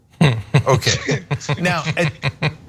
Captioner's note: laugh